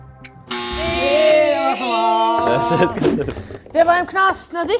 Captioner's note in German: imitiert Errorgeräusche